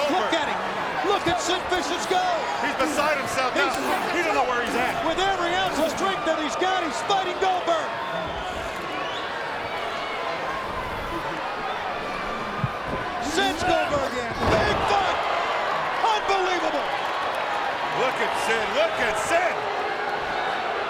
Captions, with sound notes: Look at him. Look at Sid Vicious go. He's beside himself now. He don't know where he's at. With every ounce of strength that he's got, he's fighting Goldberg. (crowd chattering) Sends Goldberg and big bunt. Unbelievable. Look at Sid. Look at Sid.